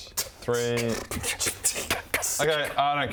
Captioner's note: scoffs